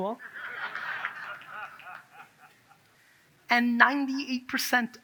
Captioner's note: audience laughs